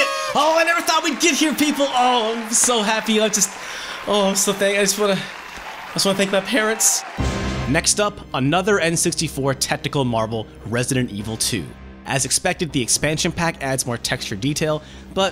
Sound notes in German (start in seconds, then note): 0.0 Partyhörner; 0.0 Beifall